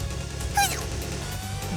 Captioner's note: sneeze